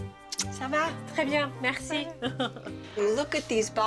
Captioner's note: conversing in French